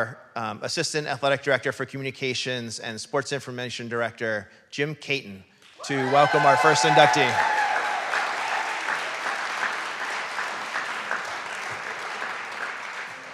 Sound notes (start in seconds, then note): 8.4 audience cheering; 9.9 audience clapping